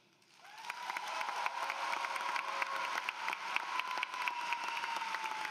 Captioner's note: applause